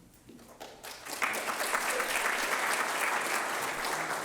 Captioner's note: applause